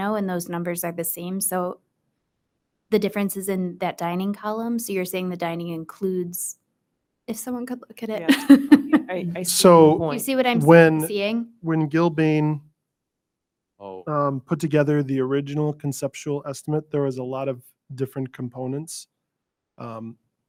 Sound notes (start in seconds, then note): 8.2 laughs